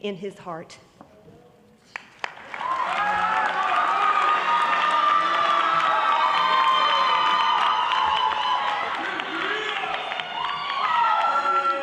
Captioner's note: applause